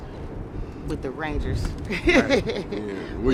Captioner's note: laughing